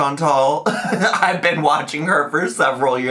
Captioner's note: laughs